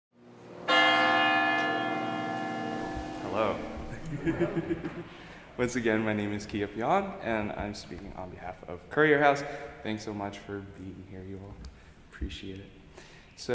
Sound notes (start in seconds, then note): 0.6 bell ringing; 3.8 giggling